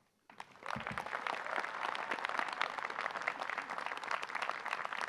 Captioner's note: graduates applaud